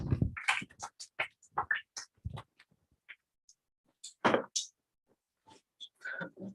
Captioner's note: applause